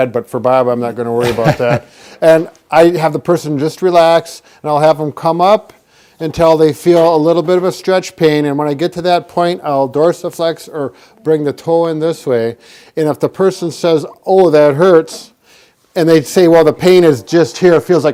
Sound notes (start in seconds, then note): 1.2 chuckles